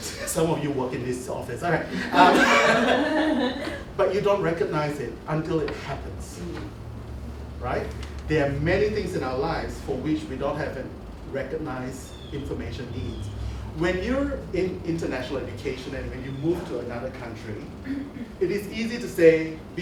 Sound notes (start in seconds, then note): 1.9 laughter